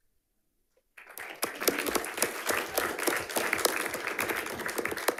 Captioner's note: audience applauding